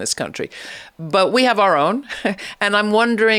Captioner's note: chuckles